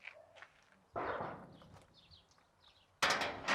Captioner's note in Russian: стук